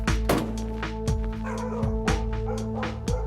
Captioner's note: dog barking